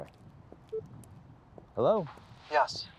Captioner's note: phone beeping